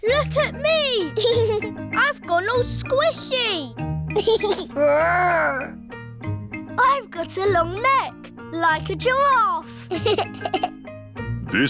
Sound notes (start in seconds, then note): 1.0 giggles; 4.1 giggles; 9.8 giggles